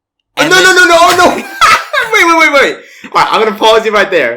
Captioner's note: laughs